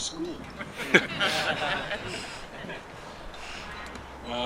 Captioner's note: audience laughing